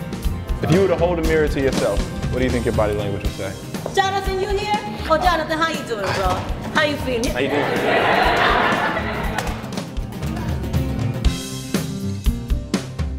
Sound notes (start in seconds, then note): 7.3 laughing; 10.4 upbeat music